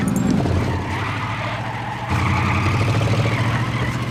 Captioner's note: tires screech